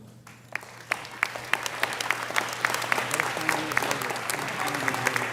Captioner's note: audience applauding